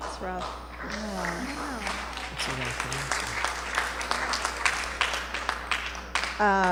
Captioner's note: applause